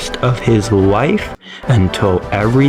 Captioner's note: inhales Oxygen